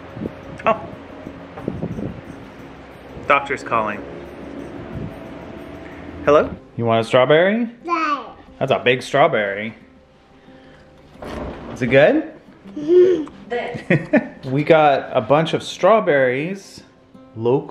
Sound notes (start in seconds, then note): 7.9 mumbles; 14.7 laughs